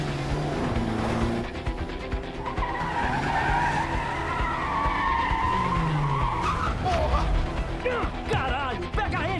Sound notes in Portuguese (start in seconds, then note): 1.3 pneus cantando